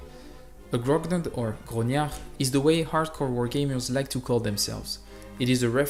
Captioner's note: in a fancy french accent